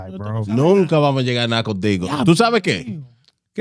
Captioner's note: speaking In Foreign Language